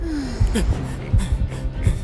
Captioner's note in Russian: огорчённый вздох; растерянные вздохи